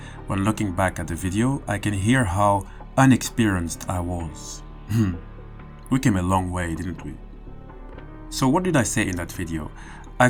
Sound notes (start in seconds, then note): 4.9 laughs